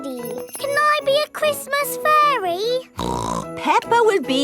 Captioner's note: snorts